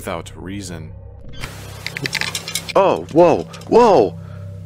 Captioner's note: fence Rattle